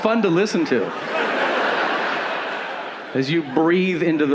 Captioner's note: audience laughing